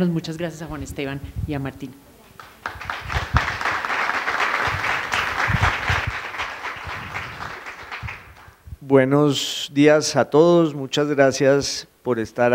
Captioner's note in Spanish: aplausos